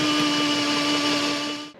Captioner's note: drilling